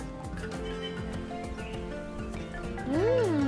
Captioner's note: birds chirping